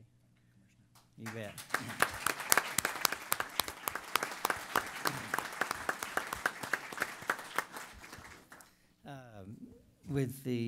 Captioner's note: applause